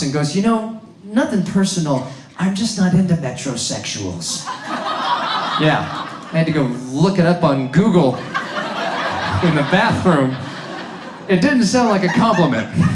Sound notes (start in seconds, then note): 8.1 audience laughs